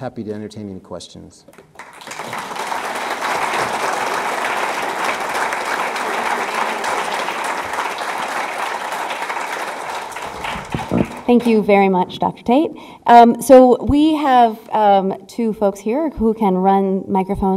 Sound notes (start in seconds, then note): 3.1 audience clapping